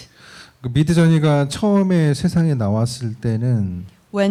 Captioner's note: speaking korean